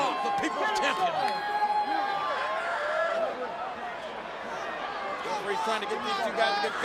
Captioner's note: spectators cheering